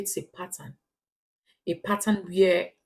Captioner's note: paause